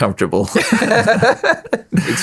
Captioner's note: laughing